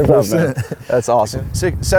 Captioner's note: laughs